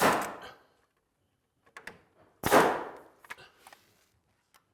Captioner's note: nail gun firing